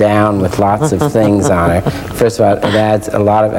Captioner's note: laughs